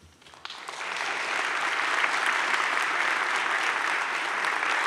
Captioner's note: audience claps